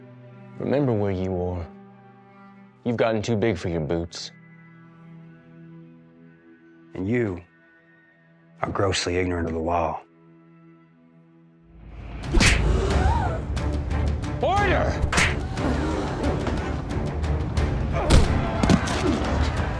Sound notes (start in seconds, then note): 12.3 slap; 12.4 crowd gasps; 15.0 punch; 15.4 gasps